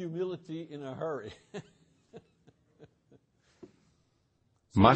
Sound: laughs

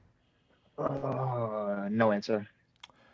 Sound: groans

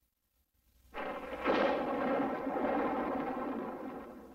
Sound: sounds of rocks falling

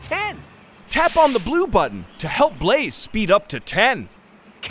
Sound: none

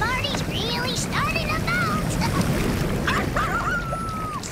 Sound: howling; sips

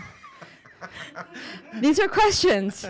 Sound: laughing

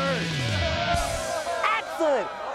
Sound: crowd cheering

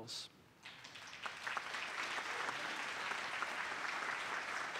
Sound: audience applauding

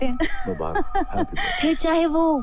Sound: laughs

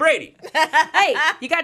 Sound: laughs

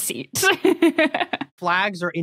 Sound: laughs; giggles

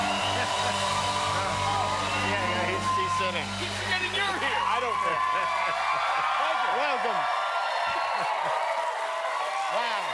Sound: cheers and applause

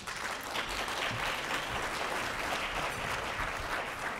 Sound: applause

